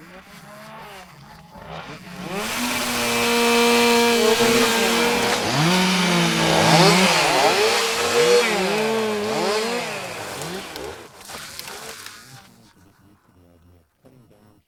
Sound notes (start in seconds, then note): 1.5 chainsaw whines- tree falls